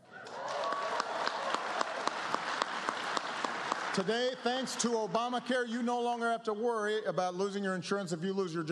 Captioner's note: applause